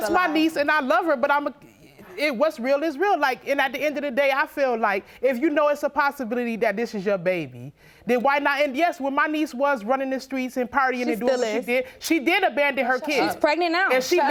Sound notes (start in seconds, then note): none